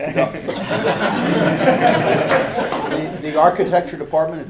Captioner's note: audience laughing